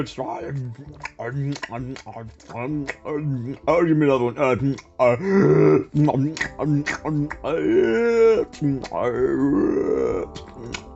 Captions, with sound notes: [Ravenous Eating Sounds] "Oh, give me another one!" [Ravenous Eating Sounds Resume] [gasps] [Ravenous Eating Sounds Resume] [Gasping and Ravenous Eating Sounds]